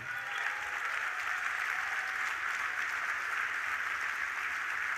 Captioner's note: audience applauding